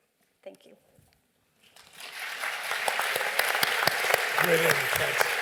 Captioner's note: applause